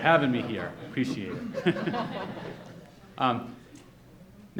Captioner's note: audience laughs